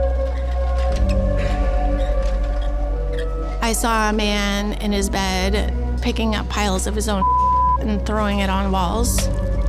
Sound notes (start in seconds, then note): 0.1 uneasy music continues; 7.2 beep